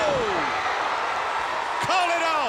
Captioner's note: crowd cheering